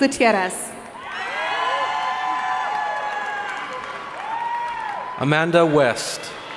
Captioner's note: audience cheering and applauding